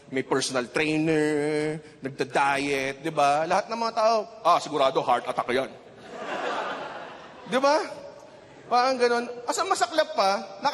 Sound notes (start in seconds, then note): 5.9 laughter